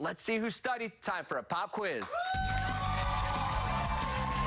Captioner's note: cheers and applause